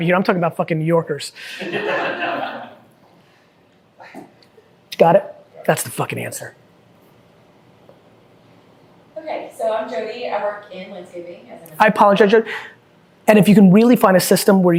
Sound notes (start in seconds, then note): 1.5 group laughing